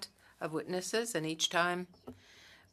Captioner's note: speaking French